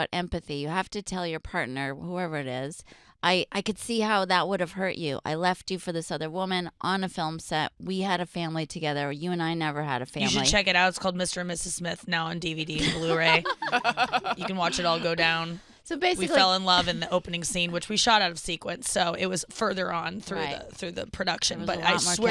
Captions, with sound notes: You have to tell your partner, whoever it is, I can see how that would have hurt you. I left you for this other woman on a film set, we had a family together, you and I never had a family-- >>: You should check it out, it's called Mr. and Mrs. Smith, now on DVD and blue ray. (laughing) You can watch it all go down. We fell in love in the opening scene which we shot out of sequence, so it was further on through the production, but I swear to God,